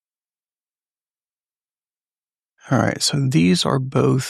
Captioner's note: silence